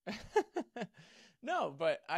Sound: laughs

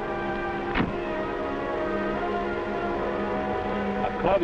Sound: metallic thudding

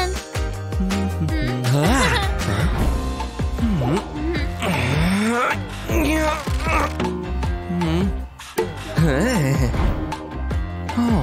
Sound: grunting

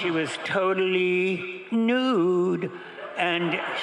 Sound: crowd laughing

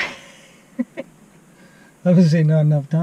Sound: laughs

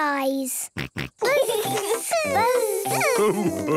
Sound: both buzzing

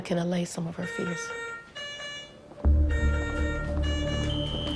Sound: machinery beeping

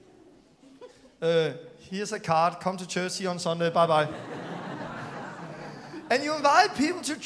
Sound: laughter

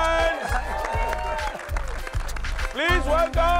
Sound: cheering, applauding

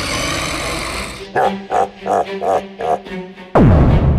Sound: Bowser laugh

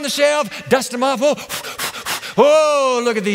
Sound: blowing

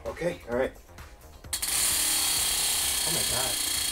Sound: wheel clicking

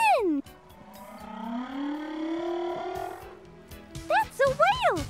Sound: humpback whale singing

